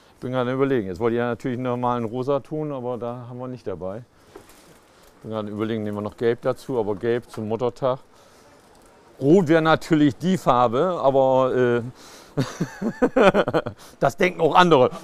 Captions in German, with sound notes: Jetzt wollt ich gern 'nen Rosaton, aber der ist nicht dabei. Nehmen wir noch Gelb dazu? Aber Gelb zum Muttertag? Rot wär natürlich die Farbe, aber äh ... (lacht) Das denken auch andere.